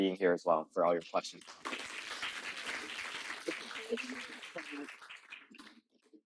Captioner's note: clapping